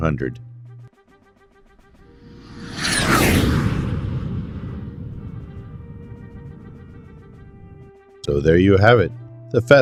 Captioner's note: jet Whoosh